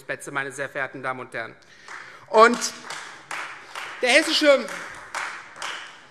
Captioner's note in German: Beifall Freie Demokraten